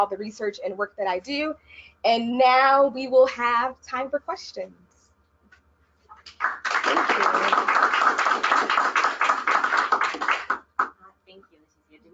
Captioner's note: applause